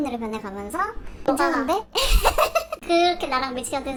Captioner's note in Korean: 웃음